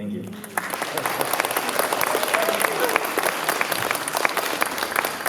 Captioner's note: applause